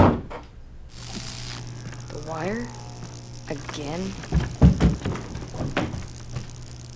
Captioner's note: buzzing